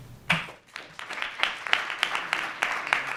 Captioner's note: applause